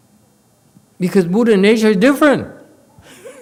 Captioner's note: laughs